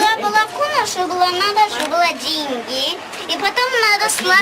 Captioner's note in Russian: русский язык, смешивается с арабским и английским